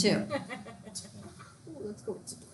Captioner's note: student laughs